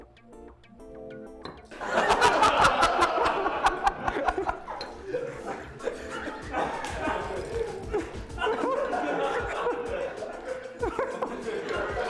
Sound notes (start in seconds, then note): 1.7 laughter; 8.3 laughter continues